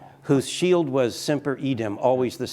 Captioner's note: speaking in foreign language